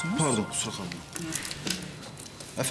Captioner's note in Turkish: telefon çalıyor